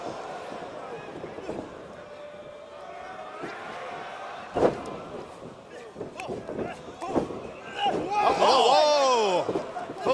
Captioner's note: crowd cheering